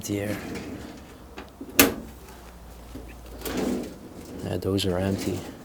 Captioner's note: opening and closing drawers